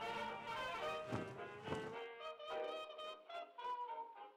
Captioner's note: laundry whipping